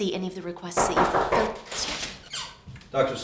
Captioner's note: knocking on door